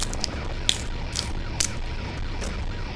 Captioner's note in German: Knisternde Geräusche beim Waffenwechsel